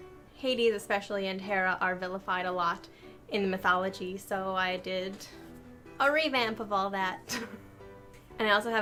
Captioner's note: laughs